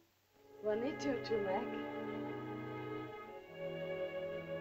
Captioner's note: Loana speaks to Tumak in caveman language; soft music